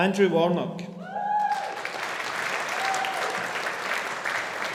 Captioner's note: audience applauding